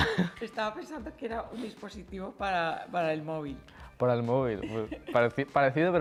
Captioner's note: laughs